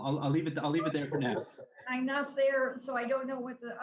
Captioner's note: laughing